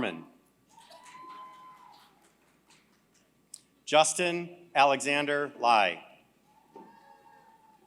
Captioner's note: applause